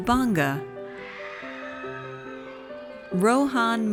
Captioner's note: audience cheers